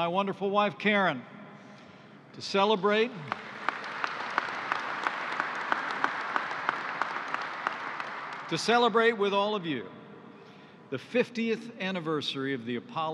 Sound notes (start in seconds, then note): 4.6 applause